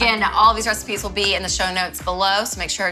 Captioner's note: claps